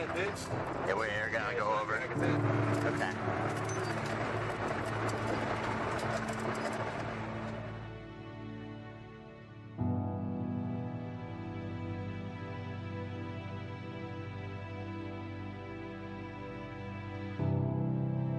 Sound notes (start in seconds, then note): 3.5 helicopter rumbling; 10.5 somber music